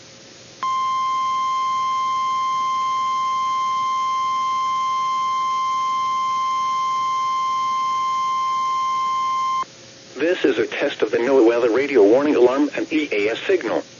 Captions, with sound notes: [1050 Hz tone] This is a test of the NOAA weather radio warning alarm and EAS signal.